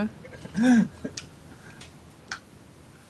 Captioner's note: laughter